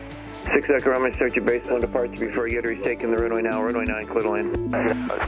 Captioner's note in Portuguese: rádio